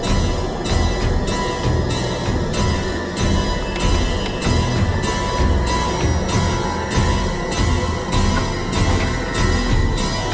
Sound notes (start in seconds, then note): 4.0 clicking; 6.1 ringing